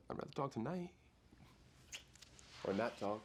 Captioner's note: smack!